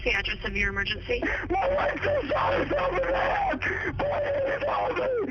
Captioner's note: on phone